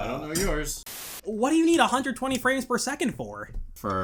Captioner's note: static